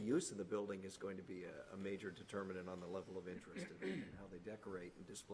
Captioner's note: clears throat